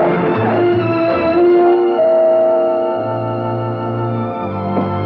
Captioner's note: doorbell Rings